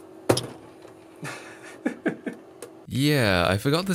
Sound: chuckles

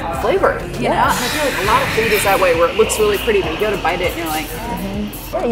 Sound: upset sound

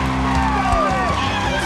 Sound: cheers and applause; cheering

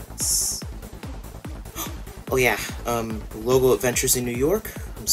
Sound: gasp

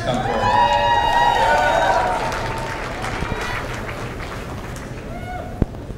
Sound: cheers and applause

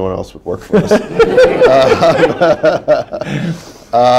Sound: laughter

